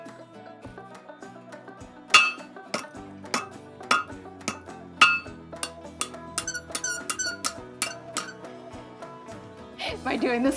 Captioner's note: hammer striking metal